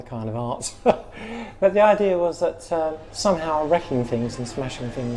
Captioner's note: laughs